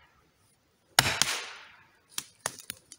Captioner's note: cracking sound; tree falling, pull back in back softness